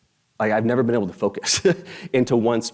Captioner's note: chuckles